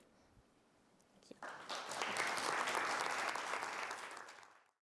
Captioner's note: applause